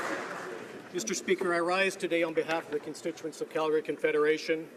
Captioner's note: applause